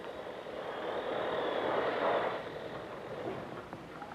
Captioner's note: machinery whirring softly